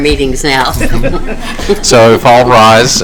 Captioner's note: laughter